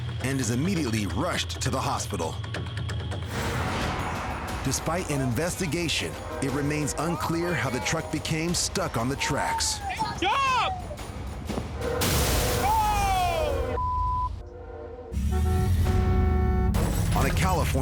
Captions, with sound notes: and is immediately rushed to the hospital. Despite an investigation, it remains unclear how the truck became stuck on the tracks. >>Jump! Oh (beep)!